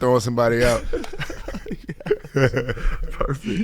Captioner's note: laughing